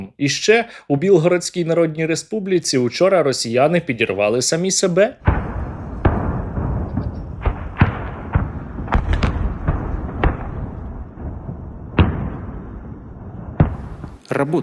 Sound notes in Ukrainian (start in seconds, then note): 5.2 вибух; 7.4 серія вибухів